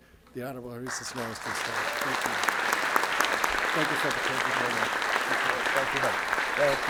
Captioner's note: audience applauds